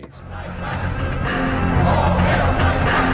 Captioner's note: crowd